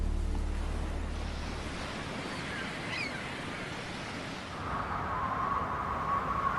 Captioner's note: water rushing; seagulls calling